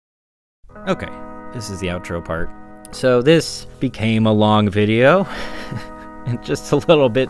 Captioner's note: laughs